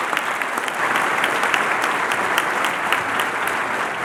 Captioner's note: cheering and Applause